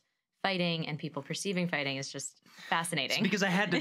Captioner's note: laughs